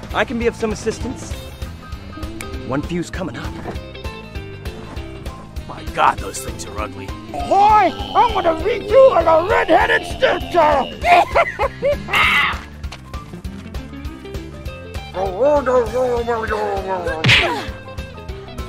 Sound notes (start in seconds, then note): 4.4 rock and roll music; 12.8 laughing